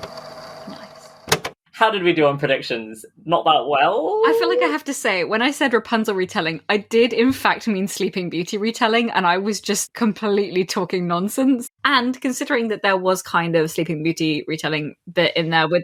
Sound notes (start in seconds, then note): 1.2 tape recorder clicks off